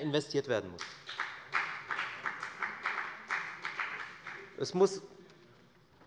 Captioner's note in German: Beifall bei der FDP